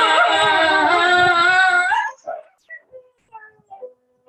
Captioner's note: howling; singing a note